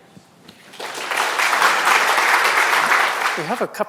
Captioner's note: audience applauds